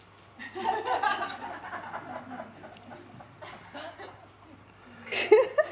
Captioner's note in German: Lachen